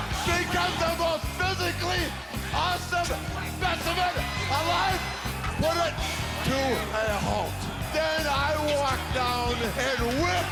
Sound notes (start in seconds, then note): 6.6 crowd cheering